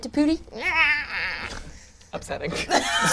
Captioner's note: gurgles